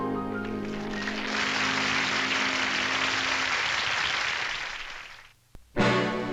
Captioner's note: applause